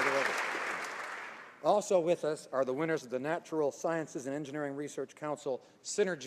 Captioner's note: applause